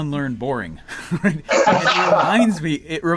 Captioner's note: laughs